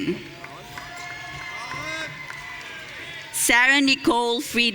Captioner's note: audience cheering